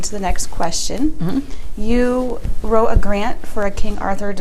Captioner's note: rustling from clothes as she adjust in her seat